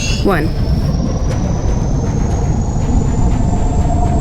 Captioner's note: sub whirring